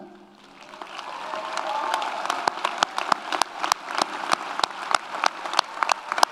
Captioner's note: audience cheers; audience applauds